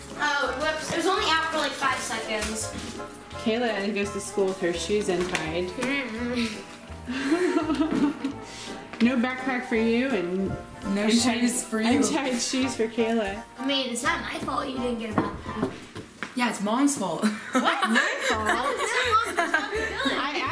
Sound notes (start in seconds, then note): 17.3 laughs